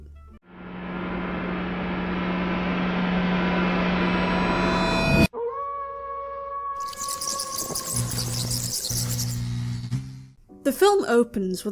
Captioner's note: spooky noises